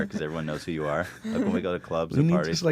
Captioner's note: laughs